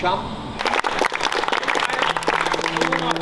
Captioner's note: players clapping